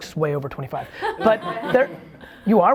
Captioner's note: laughs